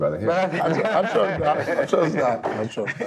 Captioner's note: all laughing